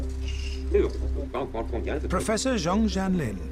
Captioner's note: speaking in foreign language